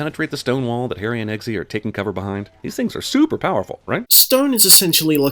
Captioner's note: none